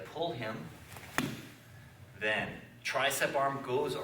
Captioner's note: soft thudding